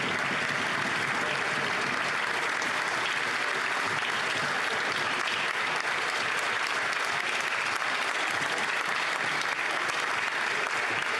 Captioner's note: applause